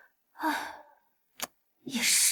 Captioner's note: sigh